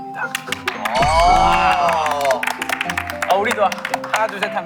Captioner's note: applaud